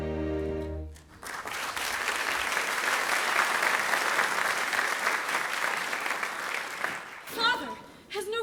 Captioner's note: applause